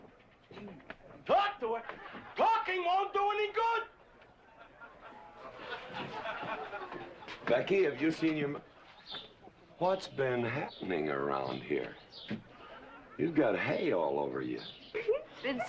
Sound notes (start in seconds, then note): 6.0 people laughing; 14.9 girl giggling